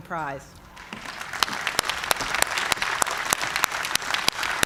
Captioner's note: applause